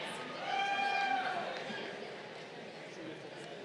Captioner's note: crowd cheering